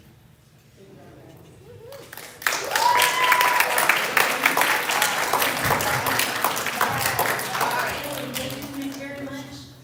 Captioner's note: applause